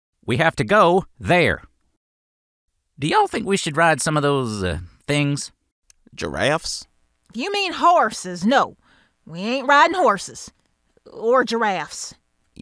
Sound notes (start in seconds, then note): none